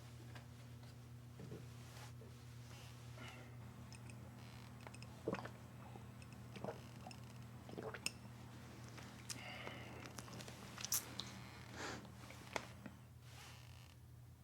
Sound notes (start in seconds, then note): 5.7 swallowing